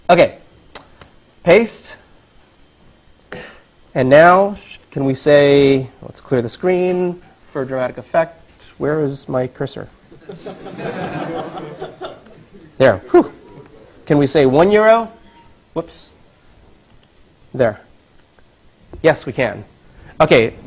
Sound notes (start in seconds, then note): 10.2 laugh